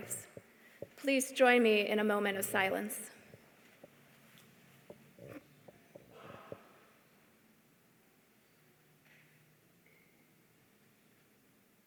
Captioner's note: moment of silence